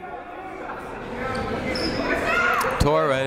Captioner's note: people shouting in the crowd